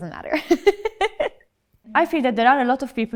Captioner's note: giggles